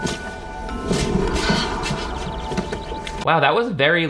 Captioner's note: wind gusts